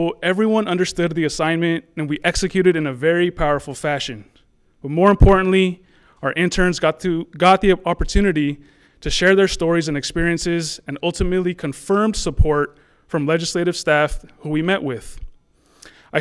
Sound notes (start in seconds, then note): none